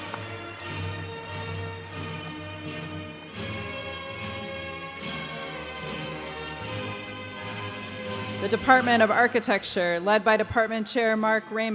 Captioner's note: applause